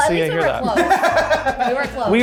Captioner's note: laughs